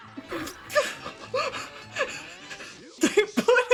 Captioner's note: hyperventilating